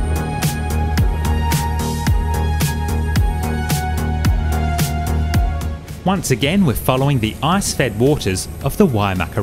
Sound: wind blowing

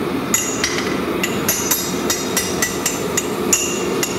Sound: metal clanging

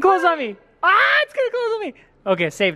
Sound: screams

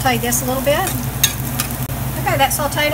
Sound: stirring

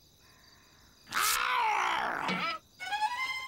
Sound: werewolf growling

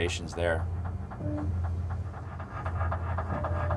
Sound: sonar clicking rhythmically

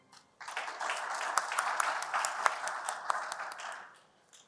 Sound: applause

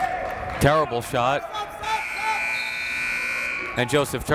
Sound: buzzer

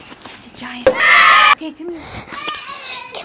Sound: screaming

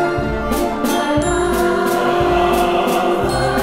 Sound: ahhh

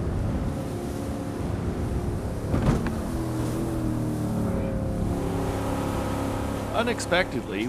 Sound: boat engine running

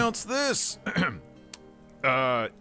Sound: clears throat

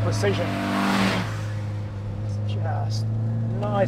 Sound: car roars

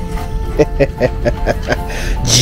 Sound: laughs

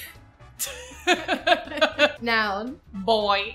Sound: both laugh

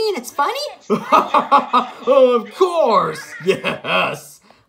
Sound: laughs

